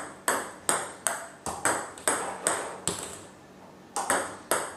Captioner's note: ball ping pong hitting continues